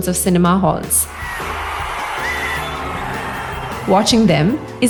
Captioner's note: cheering